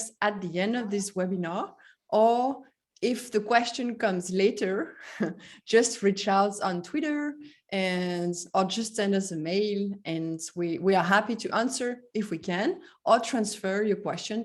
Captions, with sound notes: at the end of this webinar or if the question comes later, [chuckle] just reach out on Twitter and-- or just send us a mail, and we are happy to answer, if we can, or transfer your question